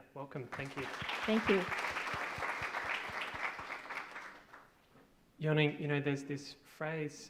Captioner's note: audience applauds